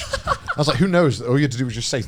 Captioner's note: laughs